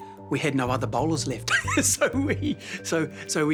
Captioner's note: laughs